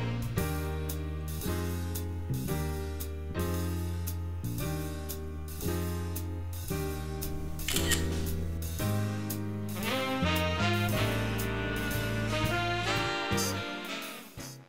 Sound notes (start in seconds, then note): 7.6 phone clicks